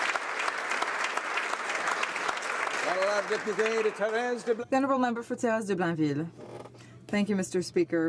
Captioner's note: applause